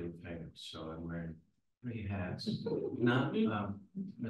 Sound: everyone chuckles

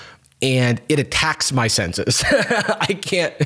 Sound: laughs

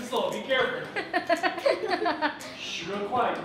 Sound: laughter

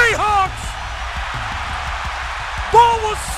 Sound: crowd cheering

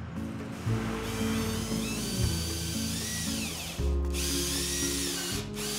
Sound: mechanical whirring

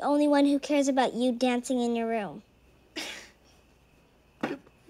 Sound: chuckles

